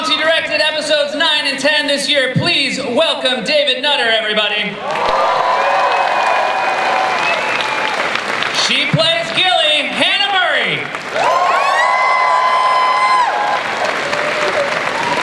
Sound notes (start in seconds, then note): 4.8 cheering, applause; 10.2 cheers, applause